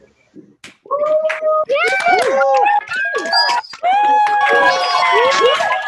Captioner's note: cheering and applause